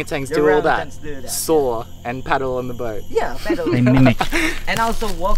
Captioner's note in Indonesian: laugh